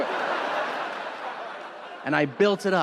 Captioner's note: audience laughing